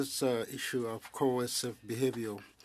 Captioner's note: speaking French